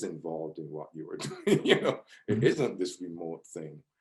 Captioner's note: laughs